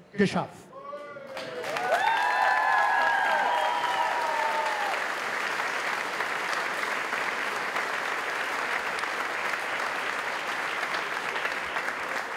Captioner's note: applause